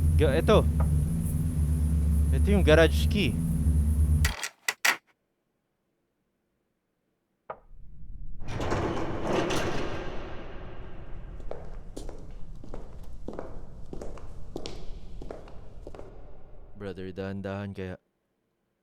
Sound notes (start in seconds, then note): 4.2 clasp clicks; 8.5 garage door opening; 11.2 loud, casual, footsteps